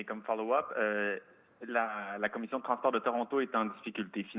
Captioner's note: speaks French